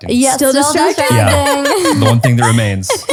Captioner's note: laughs